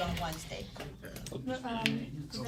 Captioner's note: students murmur